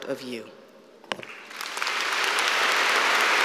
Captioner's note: applause